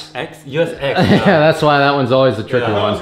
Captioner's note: laughing